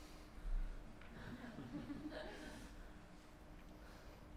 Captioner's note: chuckling